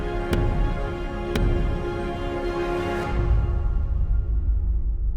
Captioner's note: cane pounding